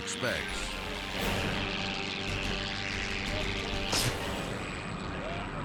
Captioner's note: helicopters buzzing; dramatic music